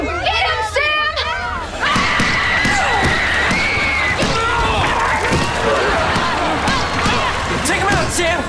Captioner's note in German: schreit und kämpft